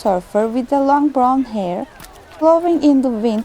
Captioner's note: the ambience of a Turkish Hammam fades in, and continues throughout the piece